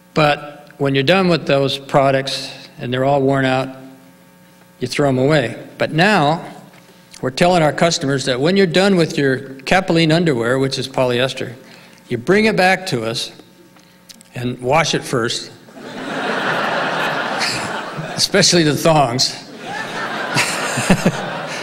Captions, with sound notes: but when you're done with those products, and they're all worn out, you throw them away, but now we're telling our customers that when you're done with your Capilene underwear which is polyester, you bring it back to us and wash it first. (audience laughing) Especially the thongs (laughs).